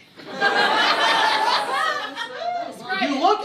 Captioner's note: laughter